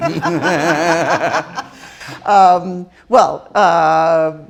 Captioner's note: all laughing